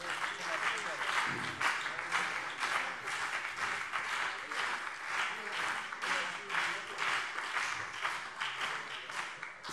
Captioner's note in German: Beifall CDU und Freie Demokraten